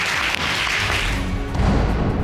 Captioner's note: gavel banging